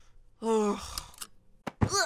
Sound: sighs

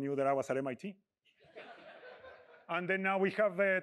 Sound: laughter

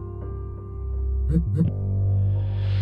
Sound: quick phone vibration

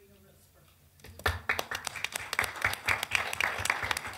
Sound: clapping

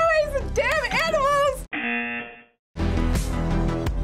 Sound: buzzer

